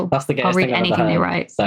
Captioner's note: laughs